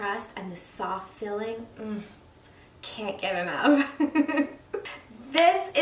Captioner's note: laughs